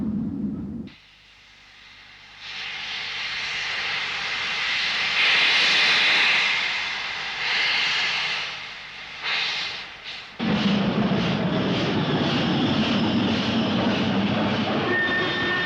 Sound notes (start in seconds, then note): 7.9 train releases steam